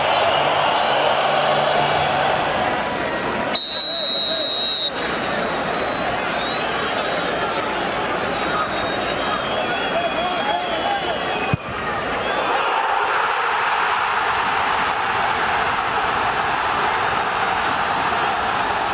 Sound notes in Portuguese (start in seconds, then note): 3.1 sons da torcida; 12.3 gritos de gol; 18.7 torcida celebrando